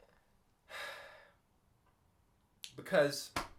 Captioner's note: sighs